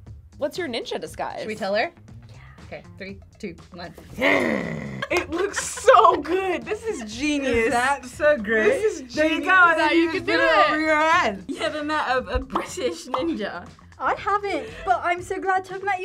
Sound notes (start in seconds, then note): 4.2 growls